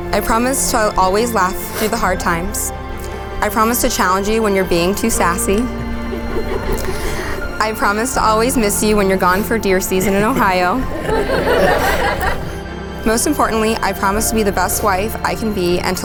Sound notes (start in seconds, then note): 11.0 laughs